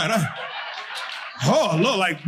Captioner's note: audience laughing; audience applauding